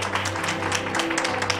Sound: applause

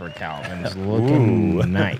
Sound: chuckles

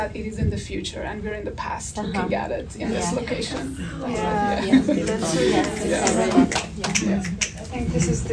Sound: audience agreement

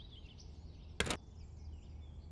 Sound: door

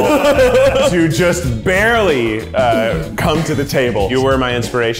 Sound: laughs

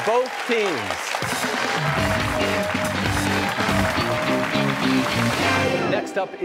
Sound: cheers and applause

